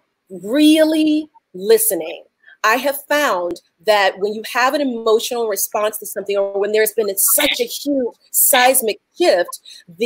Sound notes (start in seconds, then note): none